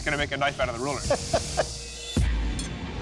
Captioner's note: laughs